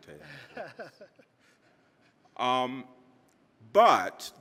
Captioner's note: man chuckling